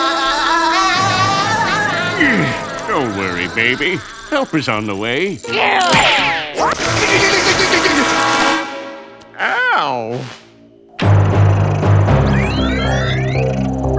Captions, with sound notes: (laughing) - Don't worry, baby. Help is on the way. (electrocuting) Ow! (tech music)